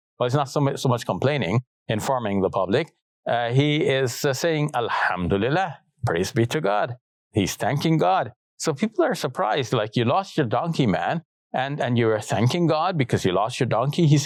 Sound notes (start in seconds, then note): 4.5 speaks in Arabic